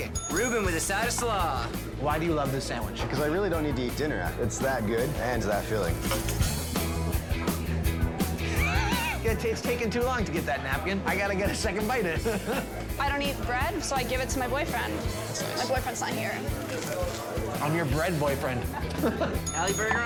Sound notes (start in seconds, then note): 0.1 bell dings; 8.6 John laughs; 16.9 bread crunches; 18.6 both laugh; 19.4 bell dings